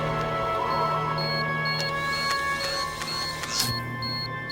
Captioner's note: music intensifies; device beeps